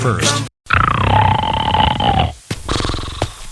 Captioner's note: snoring; footsteps